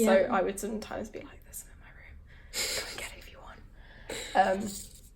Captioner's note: whispers